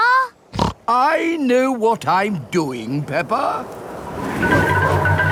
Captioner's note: snorts